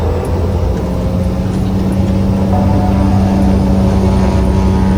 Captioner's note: airplane engine revs